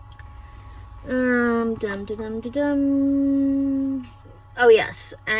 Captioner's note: in a sing-sing voice